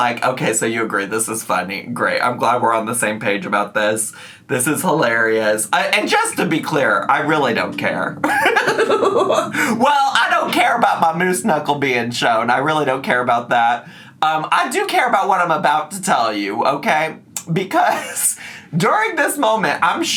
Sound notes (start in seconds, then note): 8.3 laughs